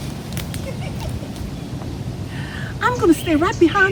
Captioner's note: giggles